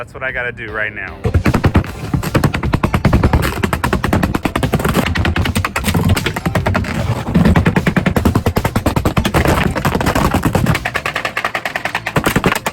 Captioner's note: hammer hitting box spring to the beat of upbeat music